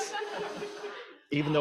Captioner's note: audience laughing